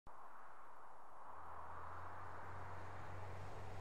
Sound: air whooshing

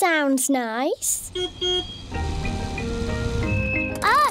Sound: car horn beeps

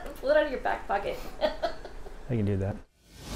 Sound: laughs

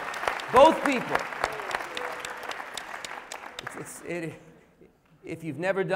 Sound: applause

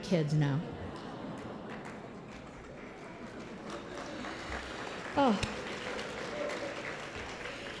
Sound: applause

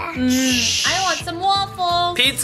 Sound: shushing

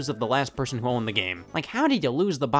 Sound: none

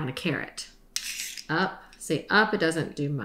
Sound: scraping

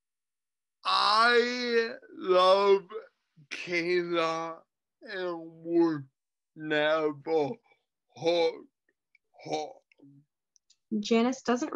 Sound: over enunciate

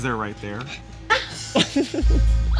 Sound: laugh

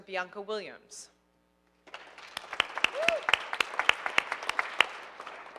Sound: audience applauding

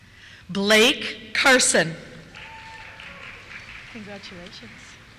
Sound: cheers

